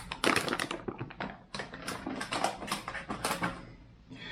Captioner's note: bag rustles